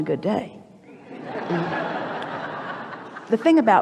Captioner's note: the audience laughs